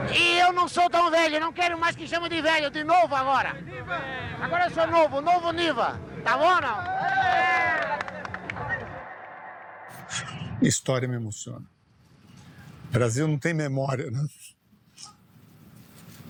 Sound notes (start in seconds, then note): 7.2 shouting